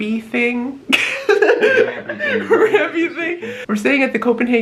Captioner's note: lols